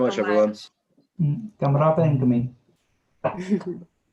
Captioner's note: foreign language